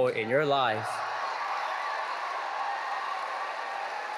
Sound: audience cheering

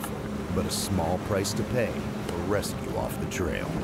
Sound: voiceover

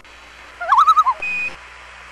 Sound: loon call

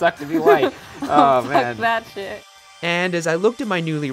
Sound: laughing

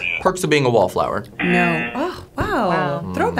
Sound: buzzer razzing

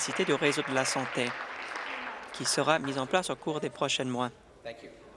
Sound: applause

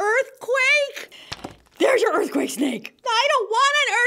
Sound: plunk

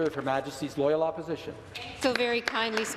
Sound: applause

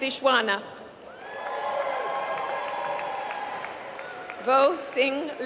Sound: applause

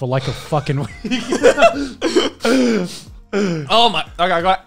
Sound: laughing

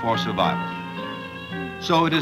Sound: baby crying

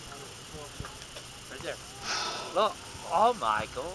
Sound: whale surfaces to breathe

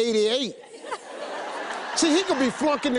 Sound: audience laughs

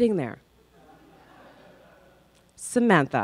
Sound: crowd laughs

